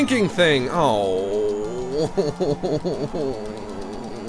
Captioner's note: groans; whines at length